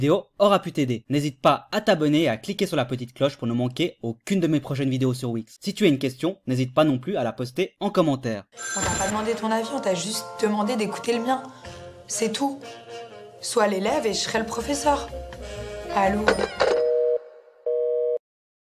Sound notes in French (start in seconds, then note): 16.2 Téléphone raccroché